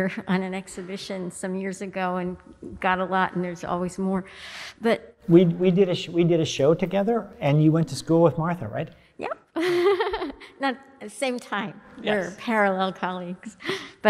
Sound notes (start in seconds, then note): 9.5 woman laughs